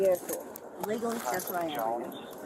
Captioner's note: radio chatter